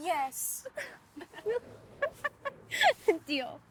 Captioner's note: both laugh